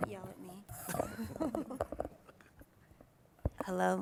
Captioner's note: laughs